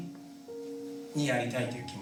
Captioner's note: speaking in foreign language